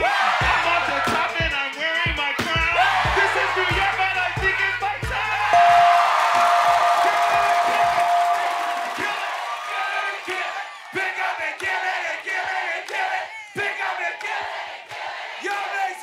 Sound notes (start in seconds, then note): 5.5 bell rings; 5.5 applause